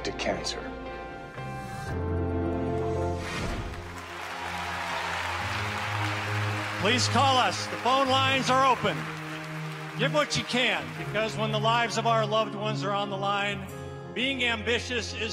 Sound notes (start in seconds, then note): 5.5 speaking in spanish; 12.6 applause